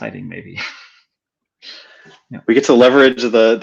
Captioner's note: laughing